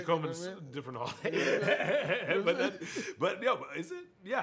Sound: laughs

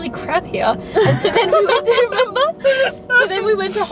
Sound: laughs

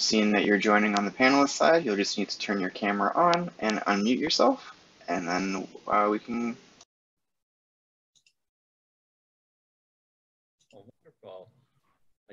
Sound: audio cut out

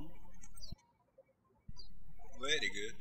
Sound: birds chirping

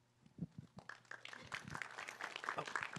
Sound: applause

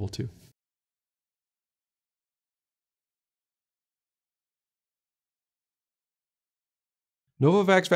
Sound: silence

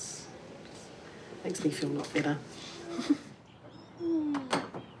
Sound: chuckles

